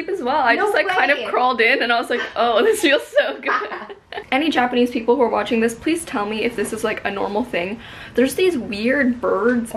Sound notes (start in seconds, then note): 3.8 laughs